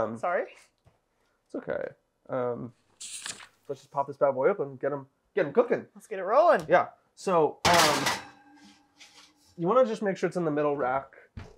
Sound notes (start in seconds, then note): 2.9 page turning